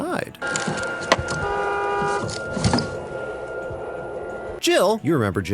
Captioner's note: car horn